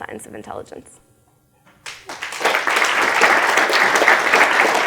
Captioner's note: applause